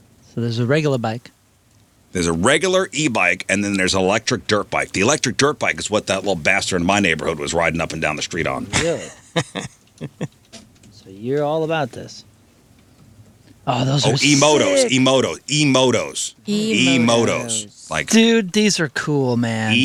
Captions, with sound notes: So there's a regular bike. There's a regular e-bike and then there's an electric dirt bike. and then there's an electric dirt bike. The electric dirt bike is what that little bastard in my neighborhood was riding up and down the street on. Yeah. (laughing) (laughing) So you're all about this. So you're all about this. Oh, those are sick. Oh, emotes, emotes, Oh, those are sick. Oh, those are sick. Oh, emotes, emotes, Emotos, emotos, emotos. Emotos. emotes, emotes. Emotes. Dude, these are cool, man. Dude, these are cool, man.